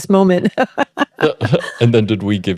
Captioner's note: laughing